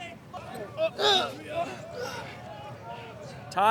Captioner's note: students grunting